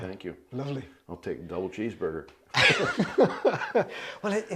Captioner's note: laughs